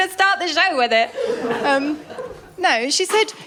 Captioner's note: laughter